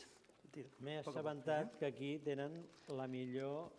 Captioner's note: non-english speech